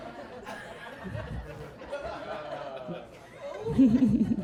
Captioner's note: audience laughing